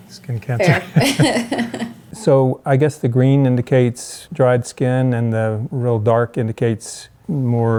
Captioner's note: laughs